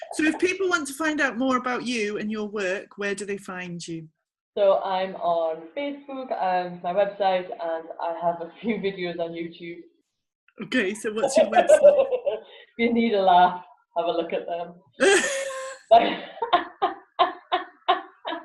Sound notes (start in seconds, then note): 11.2 laughs; 15.0 both laugh